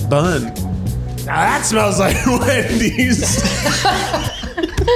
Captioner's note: laughs